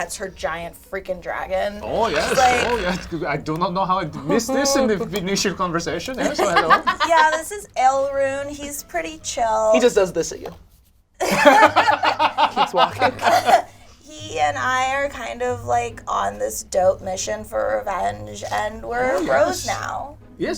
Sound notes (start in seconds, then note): 6.2 laughs; 11.2 all laugh